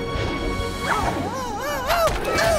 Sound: whooshes; yelps

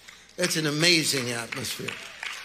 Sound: congregation applauding

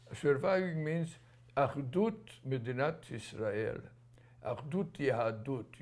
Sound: non-english

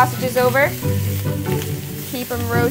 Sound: sausages sizzling

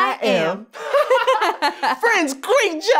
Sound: laughing

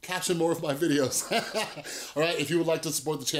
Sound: laughter

